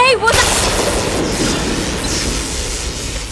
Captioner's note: lightning